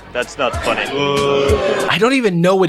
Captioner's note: crowd boos